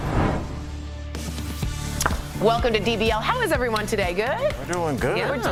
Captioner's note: laughter